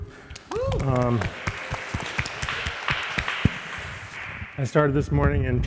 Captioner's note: audience cheering and applauding